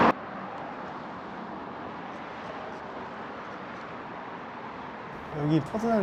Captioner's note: speaking